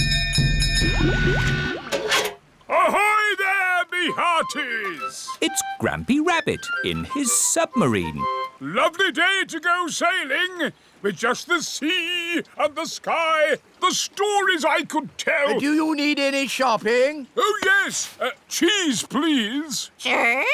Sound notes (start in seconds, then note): none